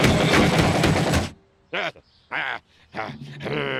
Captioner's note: breathing heavily